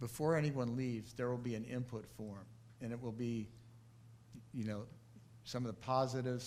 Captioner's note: none